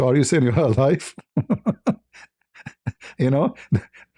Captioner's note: ketawa